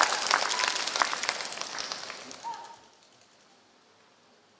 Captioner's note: applause